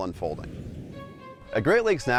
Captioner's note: air whooshes